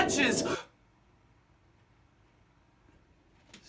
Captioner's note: gasps